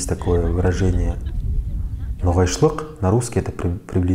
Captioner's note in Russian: на ногайском языке